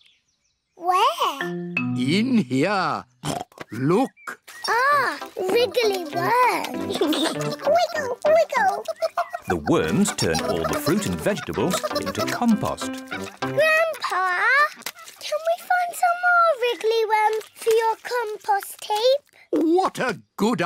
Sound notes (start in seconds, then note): 3.2 oinks; 6.7 giggles